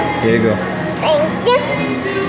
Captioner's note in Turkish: tatlı ve çocuksu bir sesle